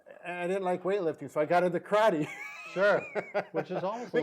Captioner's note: laughs